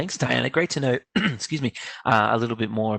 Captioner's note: clears throat